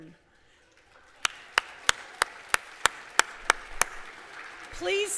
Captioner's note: applause